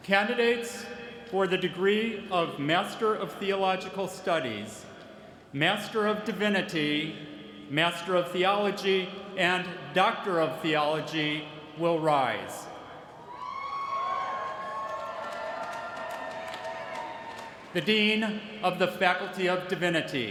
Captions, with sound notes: Candidates for the degree of Master of Theological Studies, Master of Divinity, a Master of Theology, and Doctor of Theology will rise. [CHEERING] The dean of the faculty of Divinity.